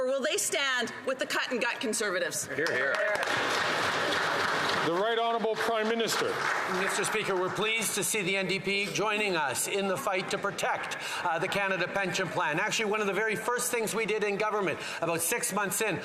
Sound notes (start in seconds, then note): 8.6 some Applause